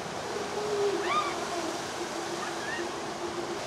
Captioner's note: screams